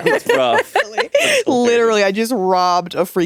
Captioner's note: all laughing